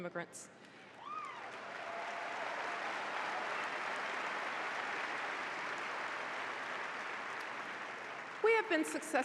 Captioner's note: applause